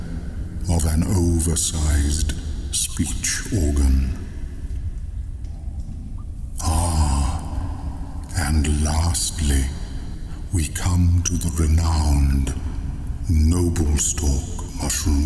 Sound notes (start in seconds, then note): 4.6 cave noises